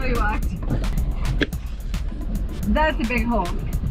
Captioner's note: loud wind gushing